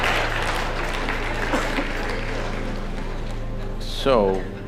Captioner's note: laughter/Applause